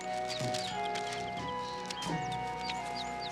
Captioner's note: distant shoveling scrapping